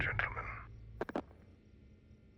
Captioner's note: hangs up